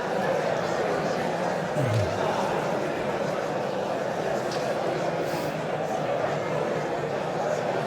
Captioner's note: audience continues indistinctly chattering